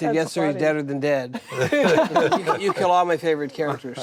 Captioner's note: group laughing